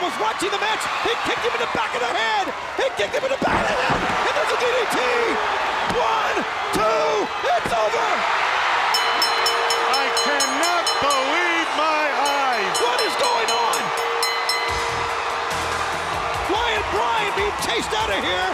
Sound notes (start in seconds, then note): 10.3 crowd cheering; 11.1 bell ringing